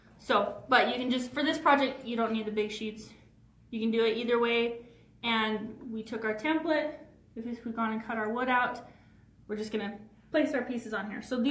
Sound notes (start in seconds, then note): none